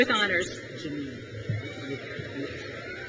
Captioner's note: crowd cheers